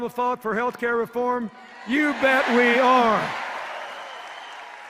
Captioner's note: cheers and applause